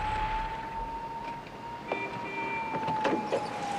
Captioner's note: horn honking; siren wailing in distant; continues honking